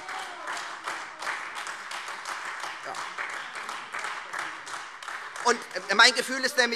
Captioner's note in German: Lebhafter Beifall Freie Demokraten und AfD